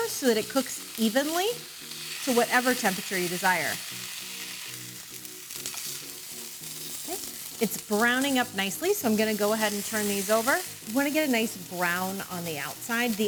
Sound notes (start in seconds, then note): 4.0 steak sizzling; 4.0 upbeat music